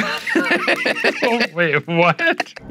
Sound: laughing

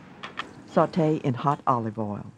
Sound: voiceover

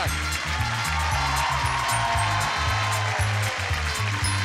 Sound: audience cheering

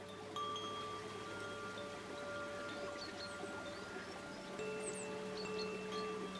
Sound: chimes tinkling; water running

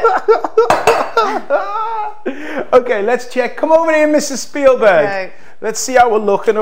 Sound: laughs

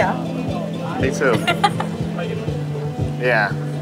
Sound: laughs

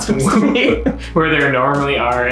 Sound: laughs; chuckles

